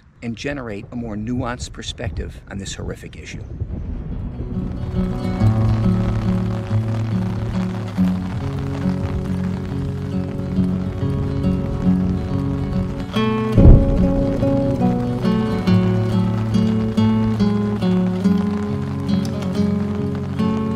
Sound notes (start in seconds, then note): 4.4 melancholy music; 4.4 thunder and rain sounds